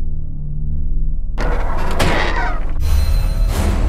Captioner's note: window slams open